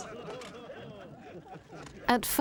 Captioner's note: photographers laughing